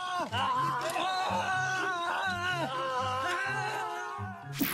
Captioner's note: soldiers shouting